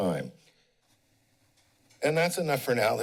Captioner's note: pause